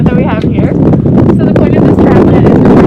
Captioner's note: wind blowing